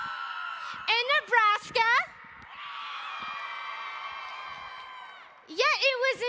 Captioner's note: crowd cheering